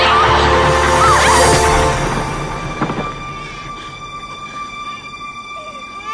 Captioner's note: screaming